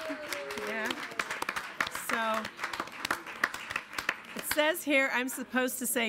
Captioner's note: applause and cheer